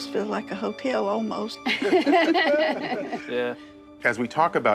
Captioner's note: all laughing